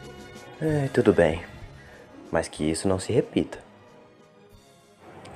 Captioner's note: sigh